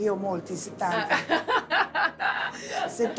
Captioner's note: laughs